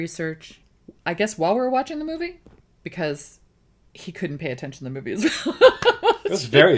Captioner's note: laughs